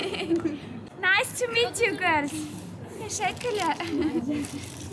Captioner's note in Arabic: بالتركية; بالتركية